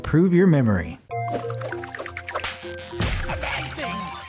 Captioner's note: creature assembling